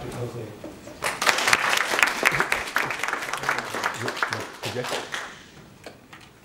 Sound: applause

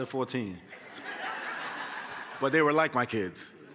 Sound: laughter

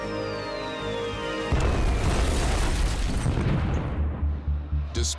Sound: bombs exploding

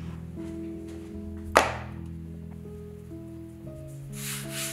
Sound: dough slaps on counter

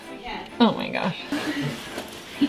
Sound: snorting laughter

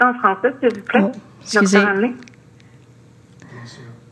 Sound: speaking French

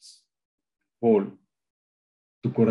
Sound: speaking in Spanish

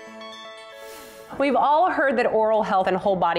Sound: whisper

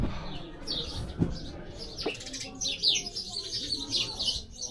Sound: birds chirping

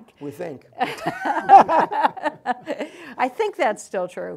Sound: laugh

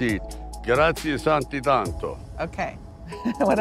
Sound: speaking in a foreign language

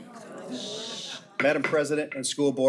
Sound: attendees groan; board member shushing; gavel pounds

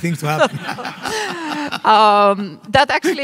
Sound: everyone laughing

